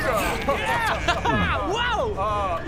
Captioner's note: gulp